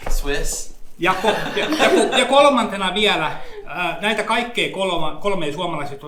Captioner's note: speaks in Finnish language